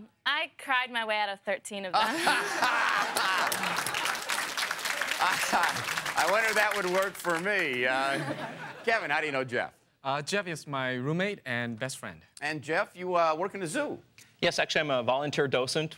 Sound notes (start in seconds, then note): 2.0 laughing; 2.2 applause